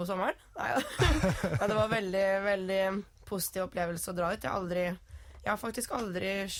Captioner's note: laughs